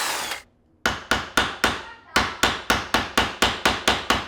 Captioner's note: hammer pounding